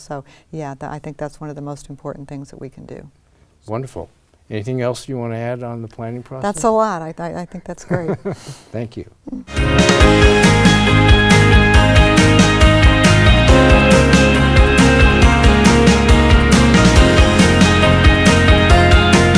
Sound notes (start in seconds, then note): 7.4 laughs